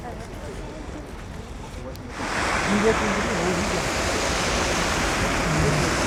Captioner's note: people chattering